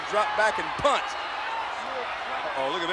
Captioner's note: audience cheering